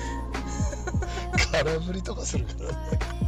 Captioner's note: laughs